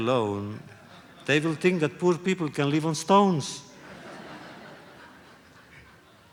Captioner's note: laughter